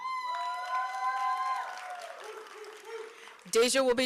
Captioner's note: applause